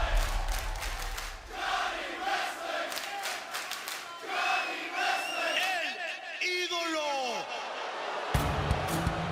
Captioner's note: fans chanting; speaking spanish